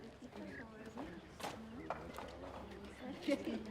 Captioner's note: murmured conversation